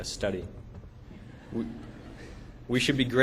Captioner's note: laughter